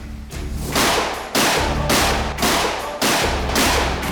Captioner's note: gunshots blasting